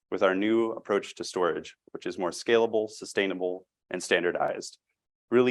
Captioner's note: none